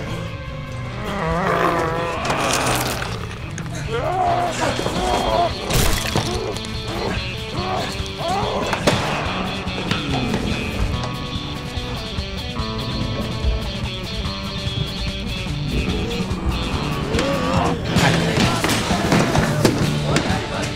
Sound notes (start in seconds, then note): 1.2 zombie growling; 2.3 flesh squelching; 5.5 flesh squishes; 8.7 door clatters; 11.4 upbeat pirate music; 17.8 footsteps thudding